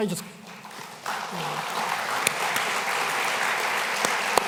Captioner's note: applause